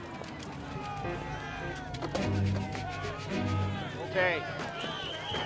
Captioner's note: doors open and slam